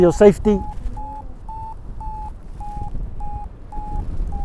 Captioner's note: Vario beeps